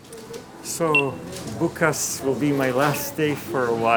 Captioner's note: speaking in foreign language